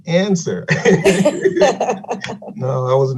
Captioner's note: laughing lightly